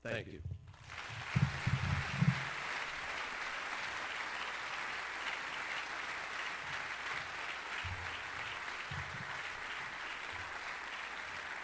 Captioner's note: applause